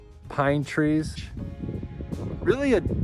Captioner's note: wind flapping